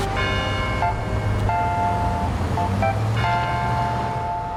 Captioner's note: bell gongs